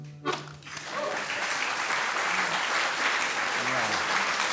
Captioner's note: applause